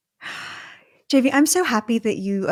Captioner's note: sighing